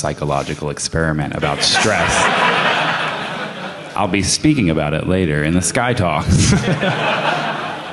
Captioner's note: laughter